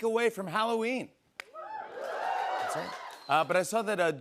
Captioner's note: cheers and applause